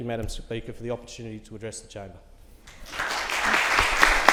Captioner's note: applause